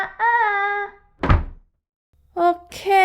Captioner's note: door Slam